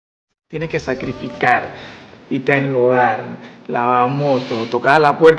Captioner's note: speaking Spanish